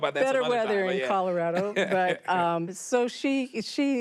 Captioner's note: laughs